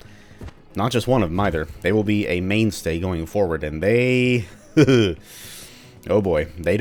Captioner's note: chuckles